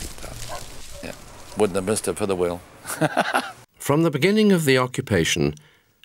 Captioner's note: laughs